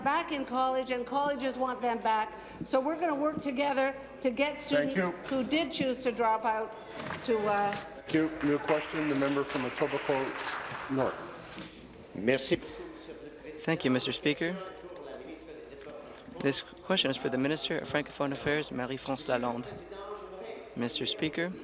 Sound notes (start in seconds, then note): 16.1 speaking in French